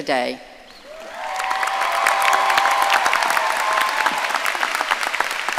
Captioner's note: audience cheering and applauding